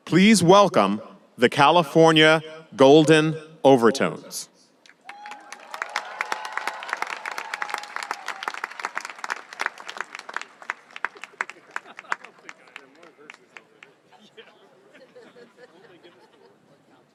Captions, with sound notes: please welcome the California Golden Overtones. (audience applauding and cheering) (chattering and laughing)